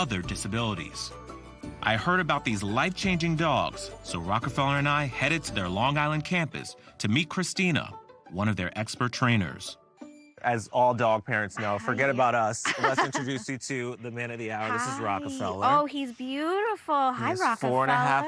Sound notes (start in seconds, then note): 11.5 laughs